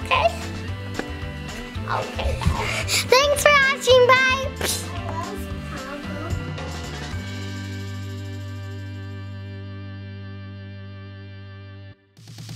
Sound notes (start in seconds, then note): 7.1 humming